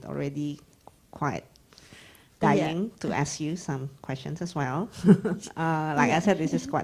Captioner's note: laughs